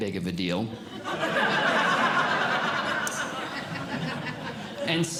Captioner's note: audience Laughing